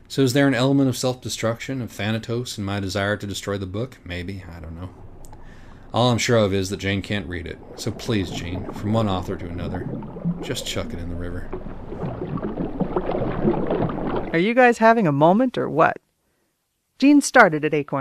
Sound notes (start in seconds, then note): 12.1 the rush of water intensifies